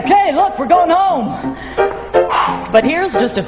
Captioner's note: exhales